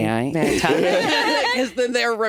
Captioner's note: all laughing